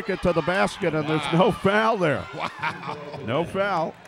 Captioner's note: laughs